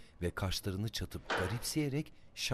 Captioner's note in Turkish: Tahta bölme açılma sesi; Tahta bölme kapanma sesi